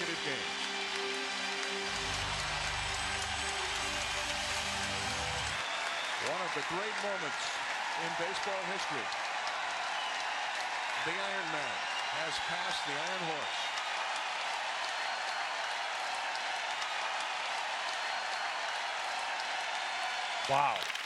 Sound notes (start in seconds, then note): 4.7 crowd cheering; 19.7 crowd cheering